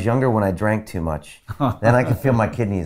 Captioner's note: laughing